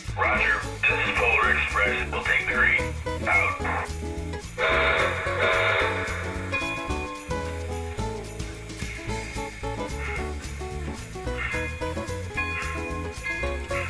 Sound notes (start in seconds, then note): 4.6 train whistle